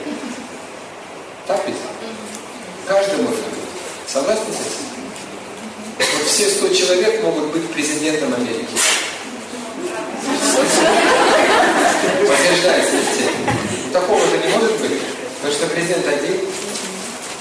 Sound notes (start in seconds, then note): 9.9 смех